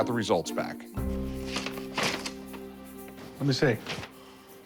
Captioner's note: paper rustling